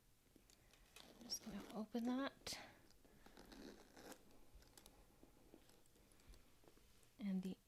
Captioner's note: unzips